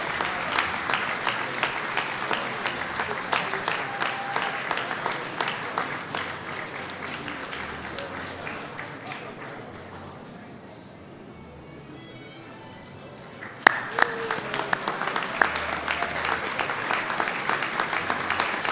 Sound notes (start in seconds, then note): 6.4 applause